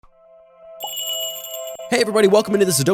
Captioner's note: magical jingle